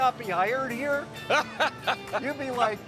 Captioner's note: laughing